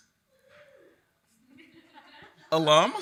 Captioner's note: attendee cheering